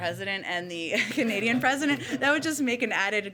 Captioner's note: laughter